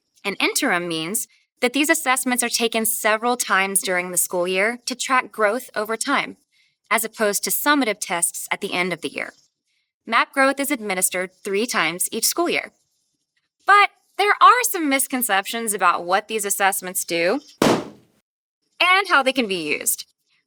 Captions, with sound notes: And “interim” means that these assessments are taken several times during the school year to track growth over time, as opposed to summative tests at the end of the year. MAP Growth is administered three times each school year. But, there are some misconceptions about what these assessments do... [balloon pops] and how they can be used.